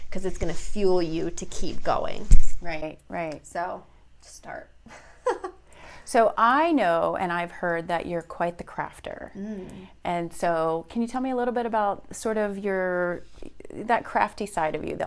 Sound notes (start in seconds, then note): 5.1 laughs